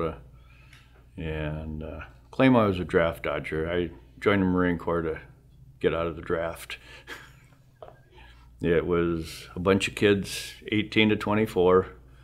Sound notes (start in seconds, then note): 7.0 laughs